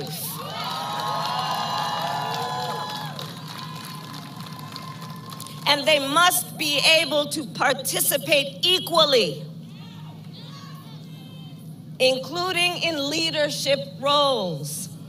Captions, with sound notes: (Applause.) And they must be able to participate equally, including in leadership roles.